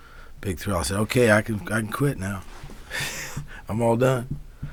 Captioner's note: laughs